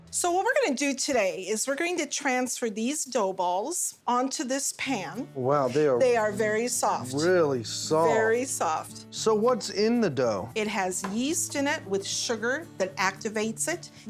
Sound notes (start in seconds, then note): none